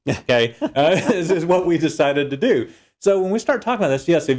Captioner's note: laugh